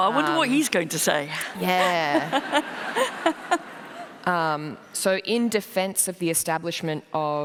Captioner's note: laughter